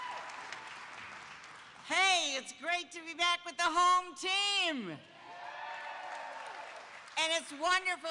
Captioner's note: applause